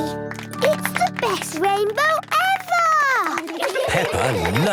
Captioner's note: laughter